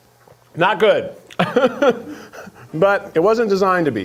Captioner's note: chuckles